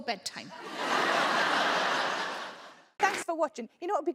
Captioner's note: audience laughs